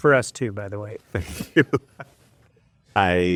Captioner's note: laughs